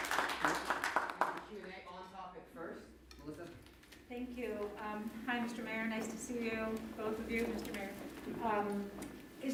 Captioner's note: applause